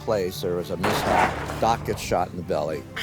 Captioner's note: gun fires